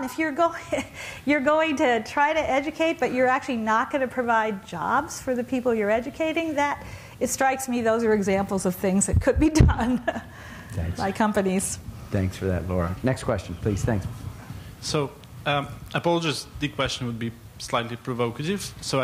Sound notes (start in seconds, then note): 10.6 laughs